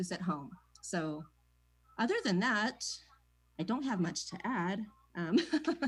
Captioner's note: laughs